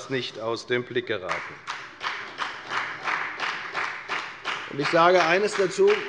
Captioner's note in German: Beifall bei der FDP